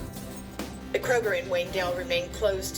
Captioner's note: on TV